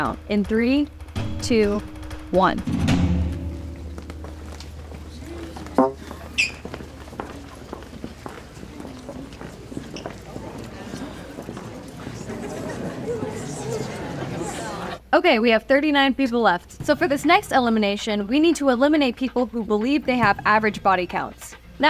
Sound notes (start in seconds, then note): 0.8 suspenseful music; 4.1 footsteps receding; 5.7 taut string plucked; 13.5 crowd chattering